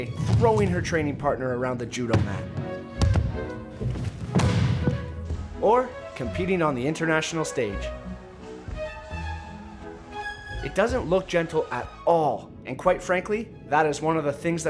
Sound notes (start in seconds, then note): 2.0 thumps